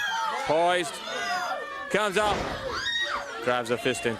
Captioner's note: crowd chatter